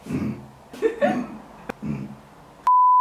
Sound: burps; burps

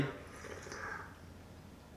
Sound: sips tea

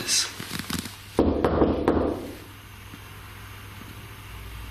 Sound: knocks

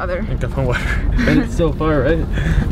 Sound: laughs

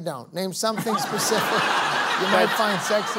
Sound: laughter

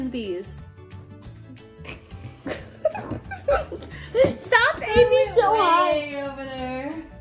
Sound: uncontrollable laughter

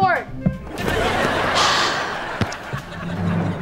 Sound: laughing; sighing

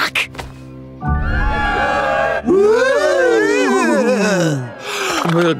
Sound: cheering

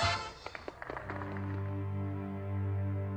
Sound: lively orchestra music; people applaud; somber music

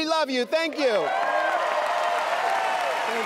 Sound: applause and cheering

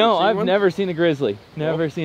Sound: laughs

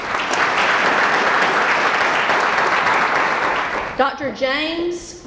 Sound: applause

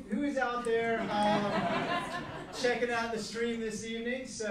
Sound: laughing

